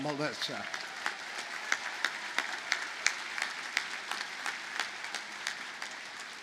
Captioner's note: audience cheers and applauds